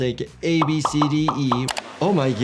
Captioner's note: bubbles popping; buttons clicking